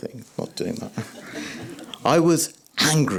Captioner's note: laughter